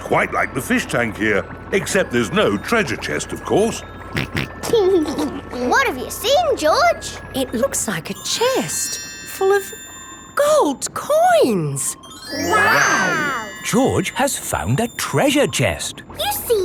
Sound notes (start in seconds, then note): 4.2 snorts and laughs